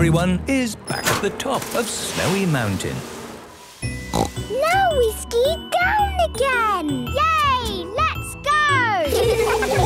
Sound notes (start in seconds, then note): 4.1 snorting; 9.0 laughter